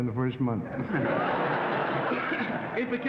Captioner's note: laughing; coughing